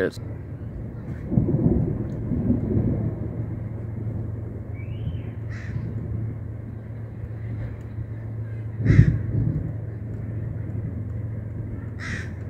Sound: deep thunder with train in the background

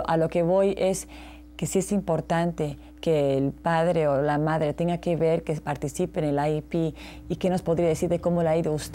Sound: translator speaking Spanish

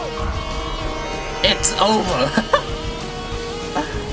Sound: chuckles

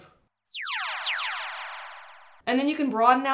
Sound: laser Tag Sound Effects

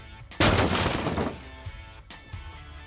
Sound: thuds

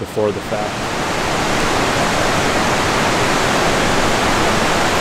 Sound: water rushing

